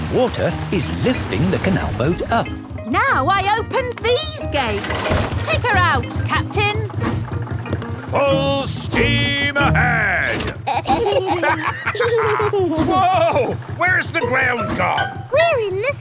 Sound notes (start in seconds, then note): 10.2 lever clangs; 10.5 kids and captain dog laughing